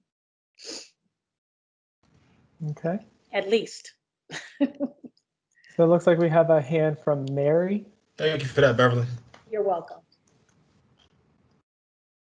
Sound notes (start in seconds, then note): 4.3 chuckles